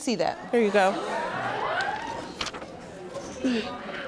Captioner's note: audience gasping